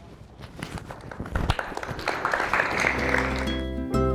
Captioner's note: crowd applauds